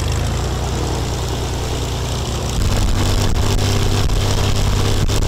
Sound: loud engine noise

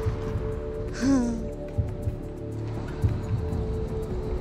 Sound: laughing

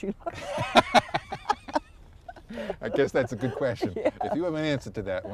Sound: laughter

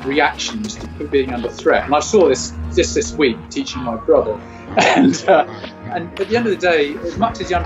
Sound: laughs

